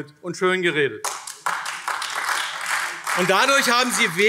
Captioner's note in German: Beifall AfD